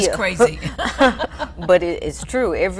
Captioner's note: laughing